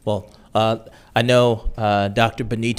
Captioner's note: none